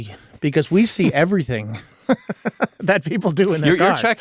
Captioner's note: chuckling